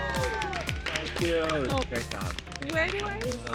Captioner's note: cheering; indistinct chatter